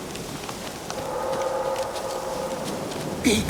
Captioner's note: distant howl